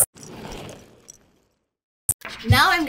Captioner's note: roller skates passing